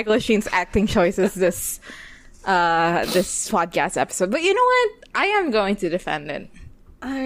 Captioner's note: laughs